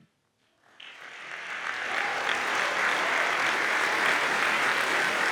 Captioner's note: audience applauds